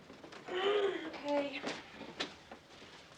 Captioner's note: Allison groans